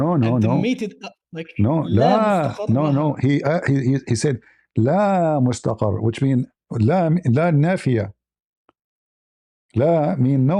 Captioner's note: Arabic; Arabic